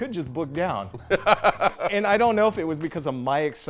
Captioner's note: laughs